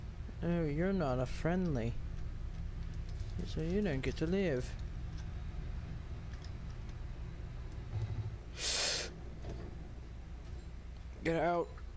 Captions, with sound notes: oh your not a friendly. so you don't get to live. *sharp inhale* GET OUT!